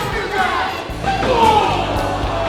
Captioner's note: crowd cheering; loud thump